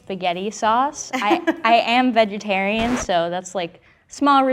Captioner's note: record scratch sound